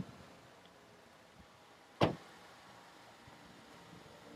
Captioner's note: car door slam